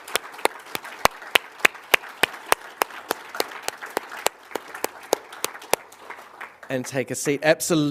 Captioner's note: applause